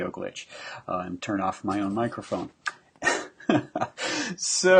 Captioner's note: laughing